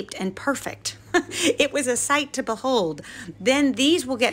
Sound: laughing

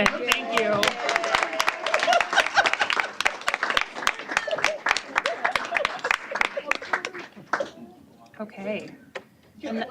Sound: applause

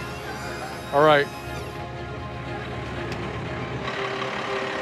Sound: lift whines; energetic music

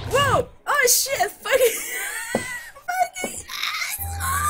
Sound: voiceless laugh

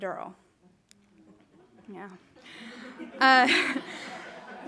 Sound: audience murmuring; audience laughing

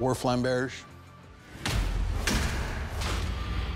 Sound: whacking

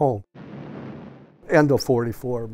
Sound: wind blowing

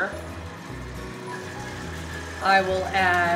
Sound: mixer whirs

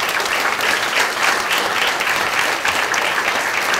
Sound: applause

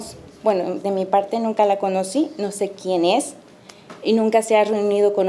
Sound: speaking Spanish

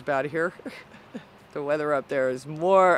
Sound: laughs

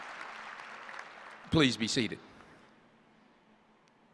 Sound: applause

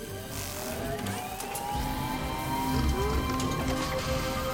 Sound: buzzing; whirring

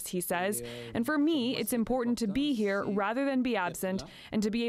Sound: speaking French

